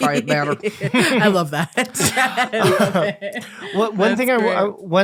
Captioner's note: laughing